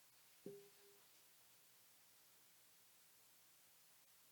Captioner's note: bell dinging